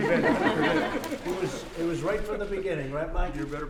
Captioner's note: laughter